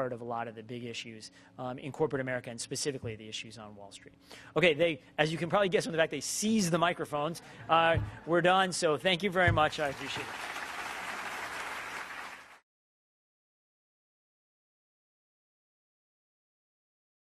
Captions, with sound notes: of a lot of the big issues in corporate America, and specifically the issues on Wall Street. Okay, as you can probably guess with the fact they seized the microphones, we're done. So, thank you very much. I appreciate it. [audience applauding]